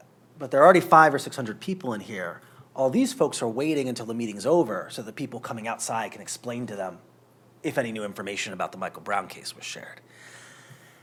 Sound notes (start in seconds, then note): none